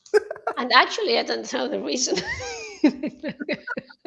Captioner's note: laughter